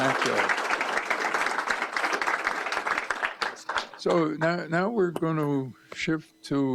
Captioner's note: applause